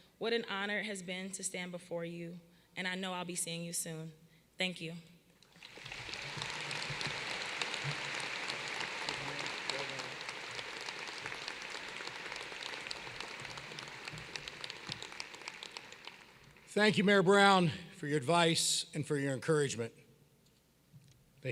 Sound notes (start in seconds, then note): 6.8 applause